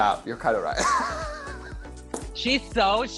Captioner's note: laughter